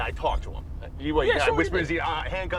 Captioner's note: stuttering